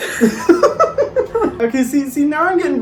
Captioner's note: both laughs